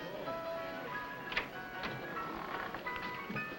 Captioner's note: door opens